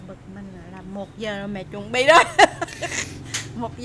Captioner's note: laugh